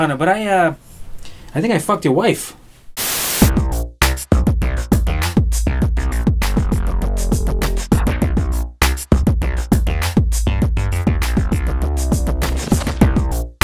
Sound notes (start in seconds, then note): 2.9 static hisses; 3.1 upbeat music